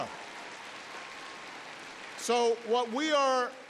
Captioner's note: applause